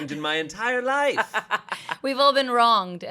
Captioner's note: laughs